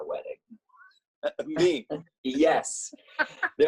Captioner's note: chuckles; laughs